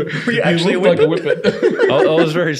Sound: laughing

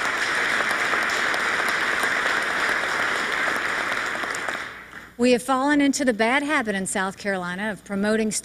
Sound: applause

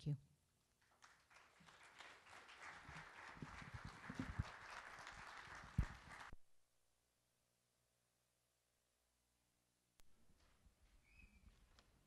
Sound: applause

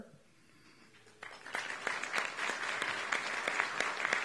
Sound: applauding

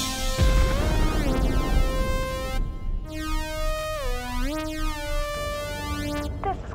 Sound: dramatic synth music; pod whoosh reverberating

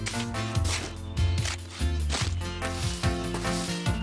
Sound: digging Sounds

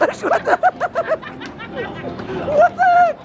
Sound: laughing

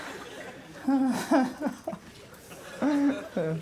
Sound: whimpers; sighs

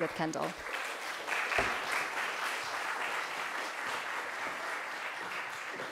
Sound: audience applause

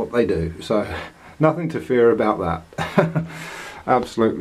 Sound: laughter

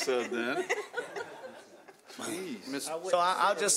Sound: chuckling

